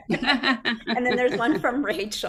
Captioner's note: chuckles